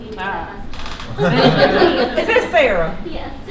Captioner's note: laughter